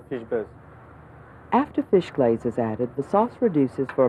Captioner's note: voiceover